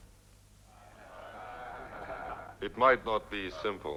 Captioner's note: men chatter